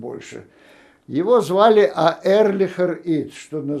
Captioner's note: yiddish